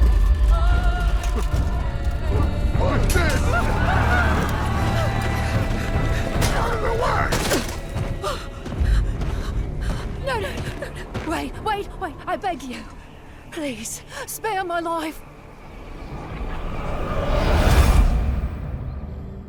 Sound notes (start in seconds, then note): 8.0 desperate panting; 16.6 tense tones